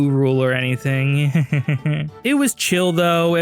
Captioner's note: nervous laughter